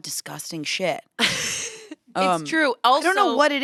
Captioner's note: laughs